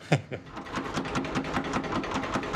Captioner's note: rattling